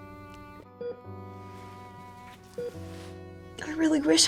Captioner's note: heart monitor beeping